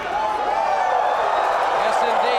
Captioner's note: Ric and crowd cheering